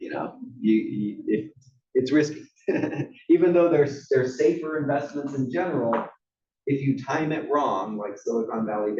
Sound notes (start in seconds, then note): 2.7 laugh